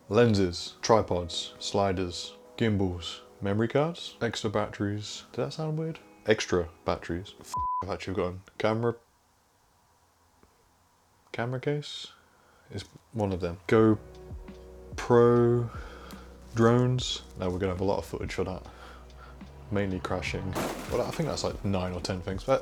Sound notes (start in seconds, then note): 7.5 beep